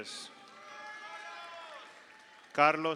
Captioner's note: audience cheers; audience applauds